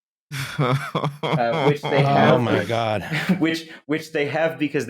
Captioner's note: laughs mournfully